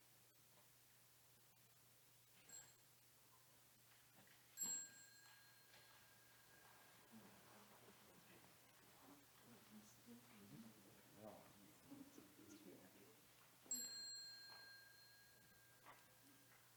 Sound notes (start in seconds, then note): 4.6 bell chimes; 13.6 bell chimes